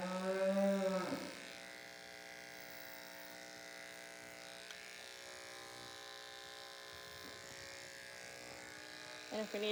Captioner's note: mooing noises; buzzing noises